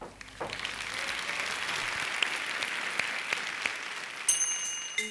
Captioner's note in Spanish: Aplausos